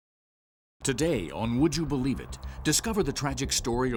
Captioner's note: voiceover